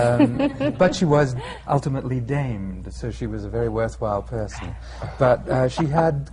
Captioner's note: laughter